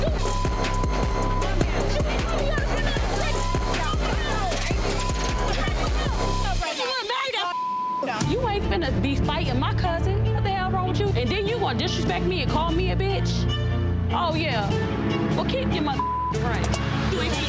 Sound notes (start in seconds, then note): 0.0 beeps; 3.5 guests screaming; 7.4 beep; 15.9 beep